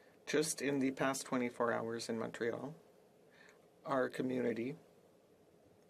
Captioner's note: speaking French